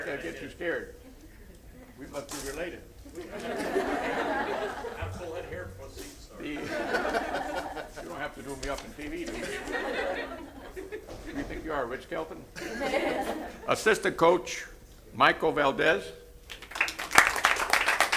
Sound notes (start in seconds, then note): 7.1 laughter